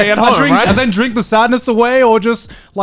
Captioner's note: all laughing